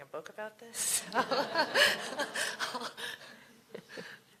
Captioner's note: laughter